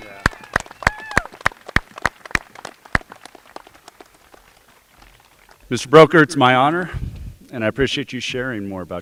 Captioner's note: applause